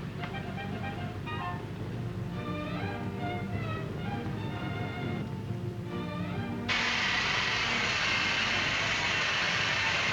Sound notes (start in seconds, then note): 0.0 gentle music; 6.7 air hissing